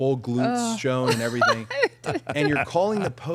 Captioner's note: group laughing